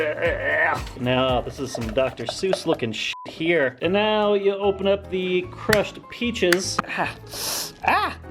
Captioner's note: in pain